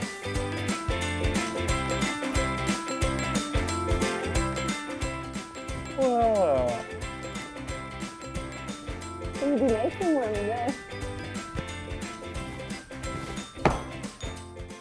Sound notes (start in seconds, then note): 7.1 yawning